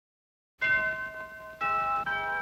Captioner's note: doorbell Rings